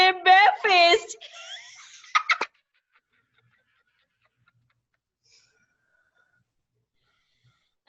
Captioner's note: laughter